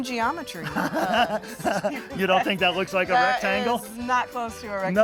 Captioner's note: laughs